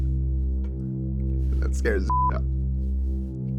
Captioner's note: intense music; beep; intense music